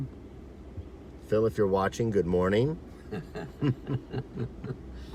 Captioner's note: chuckles